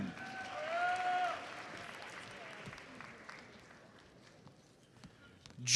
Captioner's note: audience applauds